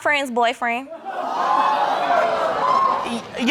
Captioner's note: audience gasps